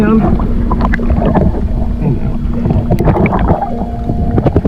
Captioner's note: water bubbling